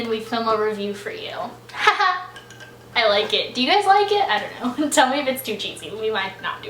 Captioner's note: laughs